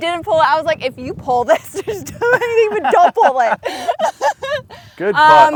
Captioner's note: laughs